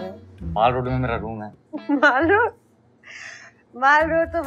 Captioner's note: Laughs